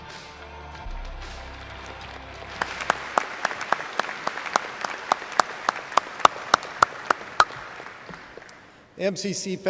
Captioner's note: video ends, applause